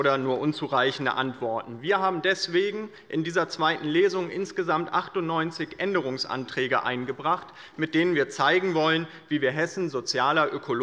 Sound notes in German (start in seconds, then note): none